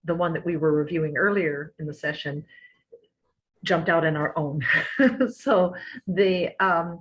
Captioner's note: laughter